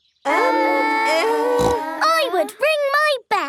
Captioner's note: peppa snorts